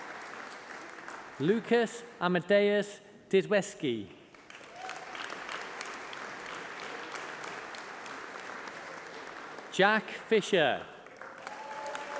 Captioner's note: applause